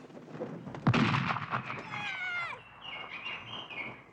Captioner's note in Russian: выстрел, крик птицы